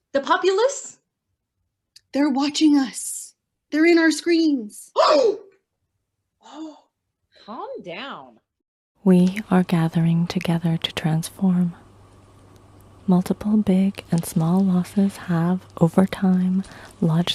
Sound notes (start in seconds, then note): 5.7 gasps